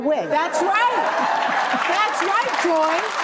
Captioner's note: audience laughs